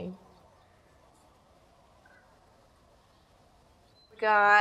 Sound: birds chirping softly

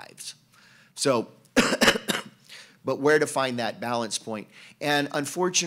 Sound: cough

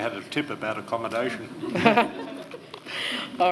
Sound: laughter

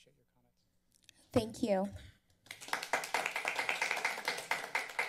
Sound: applause

